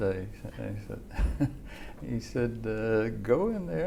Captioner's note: chuckle